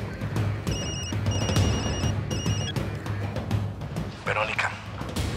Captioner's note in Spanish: Suena el celular